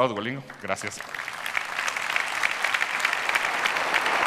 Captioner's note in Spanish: Aplausos